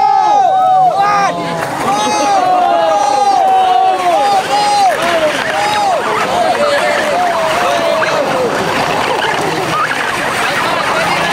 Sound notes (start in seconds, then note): 0.1 spectators cheer; 4.3 motors hum